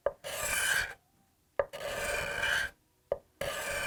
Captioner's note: scraping